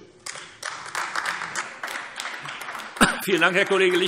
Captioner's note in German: Beifall AfD